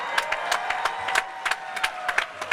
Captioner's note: applause